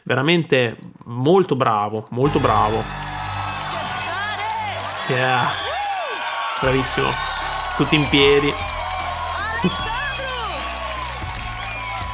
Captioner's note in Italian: Applauso